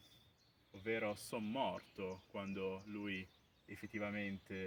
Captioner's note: in Bergamo's dialect